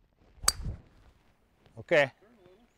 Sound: ping!

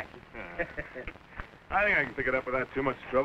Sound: chuckles

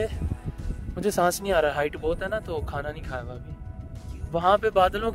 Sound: heavy breathing

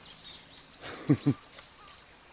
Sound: laughs

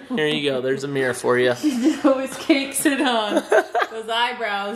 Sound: laughs

